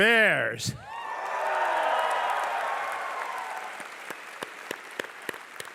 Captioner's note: crowd cheering and applause